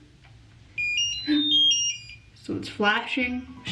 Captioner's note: hair brush beeping